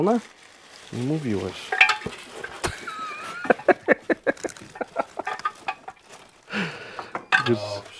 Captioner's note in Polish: śmiech